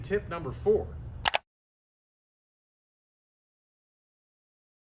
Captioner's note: switch clicking